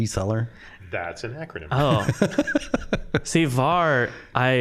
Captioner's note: laughing